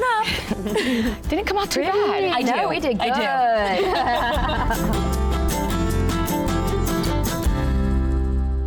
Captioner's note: chuckling